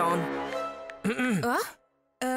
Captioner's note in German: räuspert sich